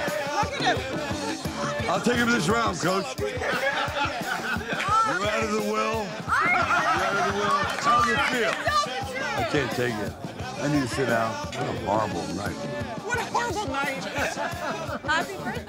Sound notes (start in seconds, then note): 0.2 upbeat music continues; 6.4 laughing